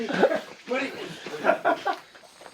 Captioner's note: laughs